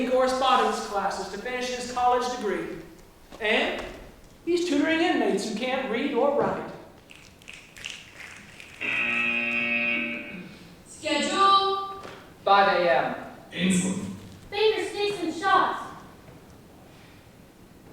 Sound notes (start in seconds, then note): 7.0 snapping; 8.8 buzzer